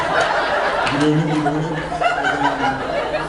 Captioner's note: laughs